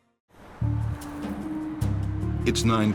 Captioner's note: plane droning; traffic rumbling; upbeat music